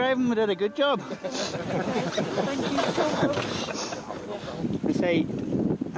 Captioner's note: all laughing